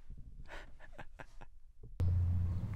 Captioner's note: laughs